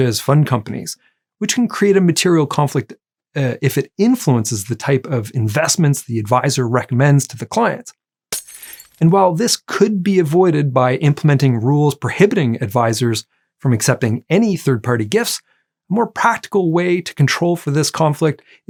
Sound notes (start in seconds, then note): 8.3 glass breaking